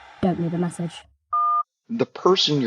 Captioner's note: voicemail beep